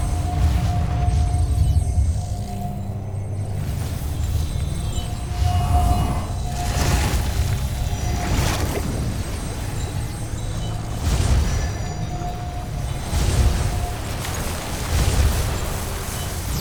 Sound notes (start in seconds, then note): 4.2 sparkling whoosh, enchanting chimes; 6.8 sparkling whoosh, energy swirling; 10.5 reverberating chimes, spellbinding whoosh